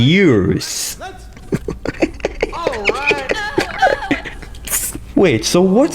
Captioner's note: laughs to myself